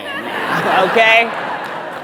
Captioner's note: audience laughs